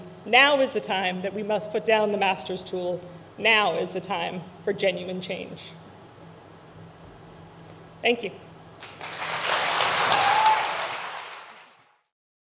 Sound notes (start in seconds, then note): 8.8 crowd claps